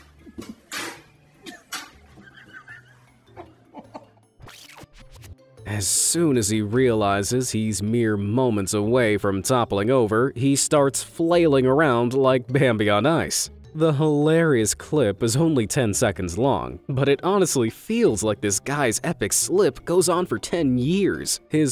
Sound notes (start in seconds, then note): 2.1 observer laughing; 4.6 image screeching